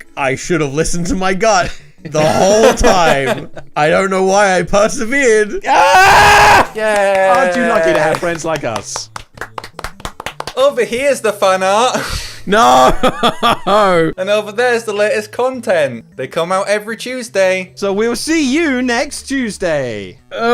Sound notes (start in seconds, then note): 5.6 shouts; 9.6 applause; 12.6 laughs